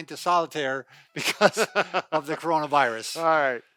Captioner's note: laughter